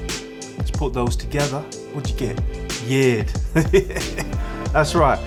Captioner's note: laughs